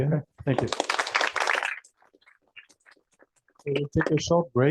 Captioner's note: applause